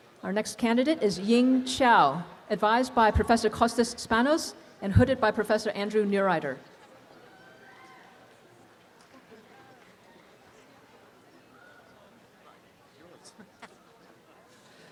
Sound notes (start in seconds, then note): 7.2 audience cheering